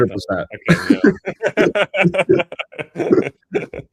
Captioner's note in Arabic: ضحك